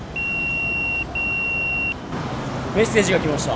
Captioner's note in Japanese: ピーーピーー：ポケベルの呼び出し音